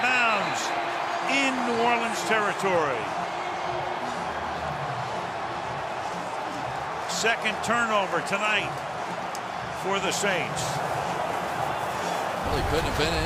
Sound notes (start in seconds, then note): 3.3 cheering